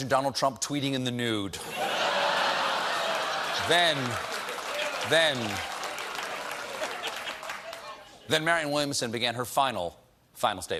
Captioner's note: applause